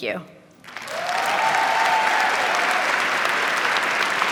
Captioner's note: applause